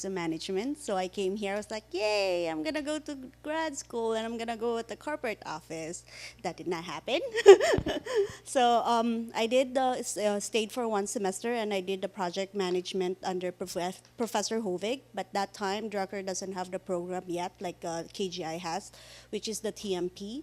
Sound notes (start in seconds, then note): 7.3 laughing